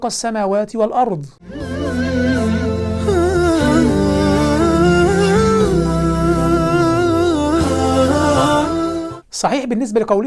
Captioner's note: logo and sound effect